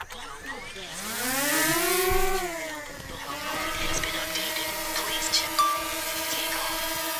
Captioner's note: drone whizzing